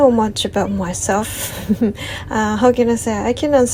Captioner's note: laughs